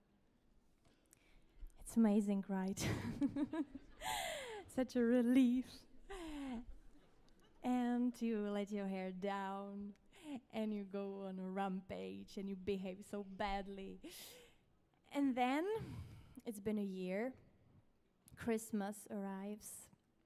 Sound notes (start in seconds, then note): 2.8 laughs; 3.1 audience laughs